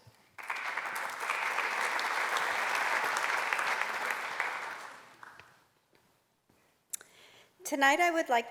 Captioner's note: applause